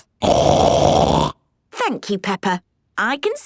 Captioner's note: loud snort